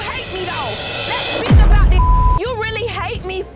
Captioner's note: beeping